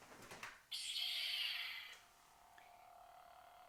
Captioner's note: lightsaber sound